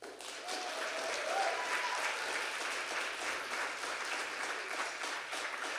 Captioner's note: audience applauding and cheering